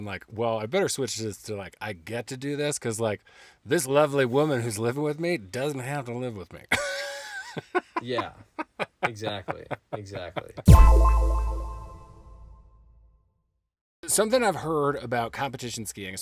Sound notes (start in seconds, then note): 6.8 laughing; 10.7 sharp tone echoing